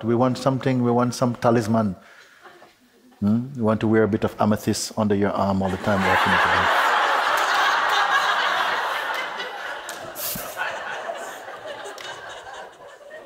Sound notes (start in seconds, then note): 5.7 loud laughter